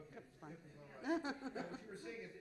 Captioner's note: laughs